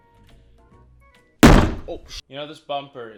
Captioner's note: bumping